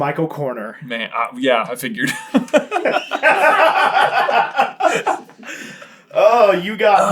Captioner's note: laughter